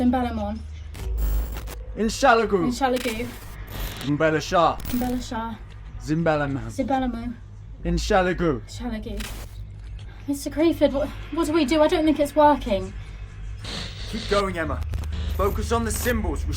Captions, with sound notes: (Emma speaking in foreign language) (Alan speaking in foreign language) (Emma speaking in foreign language) (Alan speaking in foreign language) (Emma speaking in foreign language) (Alan speaking in foreign language) (Emma speaking in foreign language) (Alan speaking in foreign language) (Emma speaking in foreign language) - Mr. Crayford, what do we do? I don't think it's working. - Keep going, Emma, focus on the symbols,